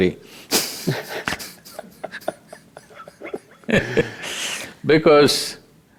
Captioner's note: both Laugh